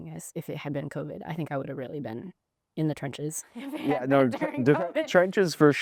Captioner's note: laughs